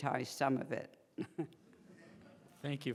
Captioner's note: laughing